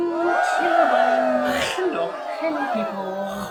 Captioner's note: crowd cheering